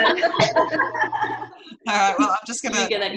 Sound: laughter

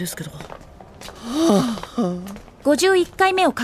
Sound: an even more desolate sigh

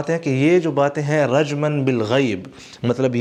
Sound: Arabic

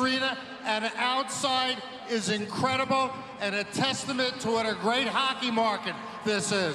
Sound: cheering

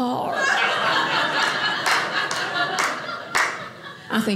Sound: audience laughing

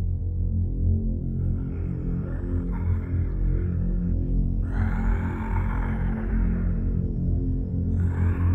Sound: zombie moans

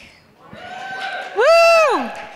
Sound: audience cheers

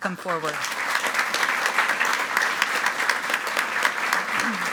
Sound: group applauding

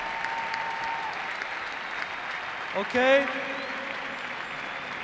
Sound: cheers and applause

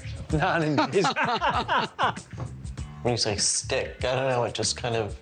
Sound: laughs

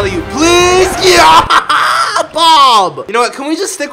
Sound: anguished screaming

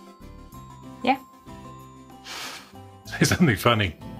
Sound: laugh

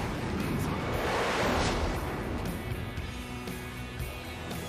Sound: plane taking off

